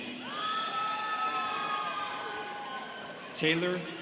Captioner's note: students cheering